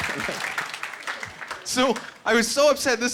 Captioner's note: laughing